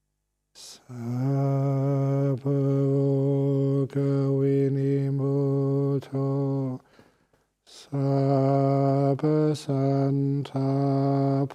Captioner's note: chanting